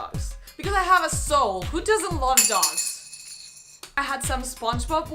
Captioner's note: tazos fall to the floor